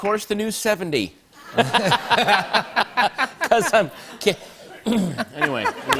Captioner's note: laughter